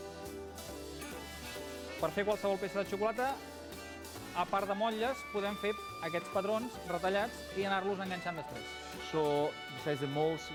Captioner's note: non-english speech